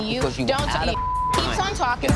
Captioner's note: beeping